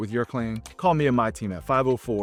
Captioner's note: screen clicking